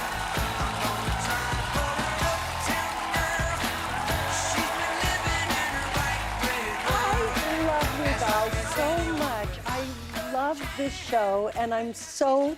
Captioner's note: applause